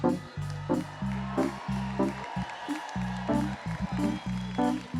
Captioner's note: audience applauds